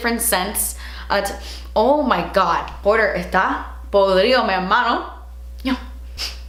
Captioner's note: she speaks spanish